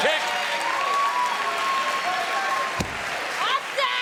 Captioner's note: crowd cheering; Io shouting